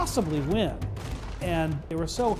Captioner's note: gun shots